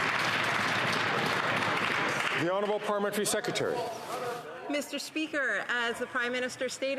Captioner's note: some Applause